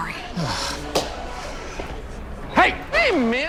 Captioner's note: sighs